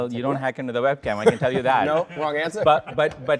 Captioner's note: everyone laughs